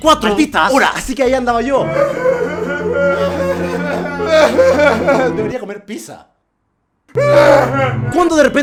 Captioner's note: crying; continues crying